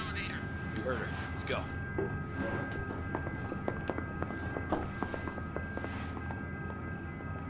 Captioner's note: sounds of footsteps leaving the server room